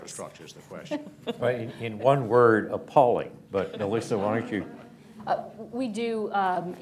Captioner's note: laughter